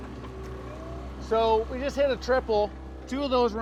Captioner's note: background chatter; boat engine running